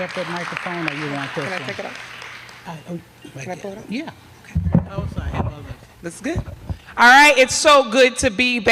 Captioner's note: applause